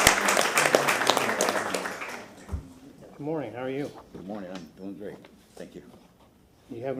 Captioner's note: applause